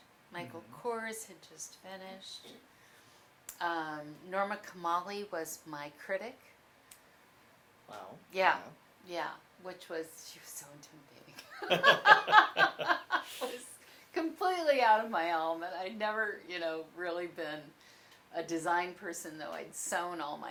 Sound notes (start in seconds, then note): 11.4 laughter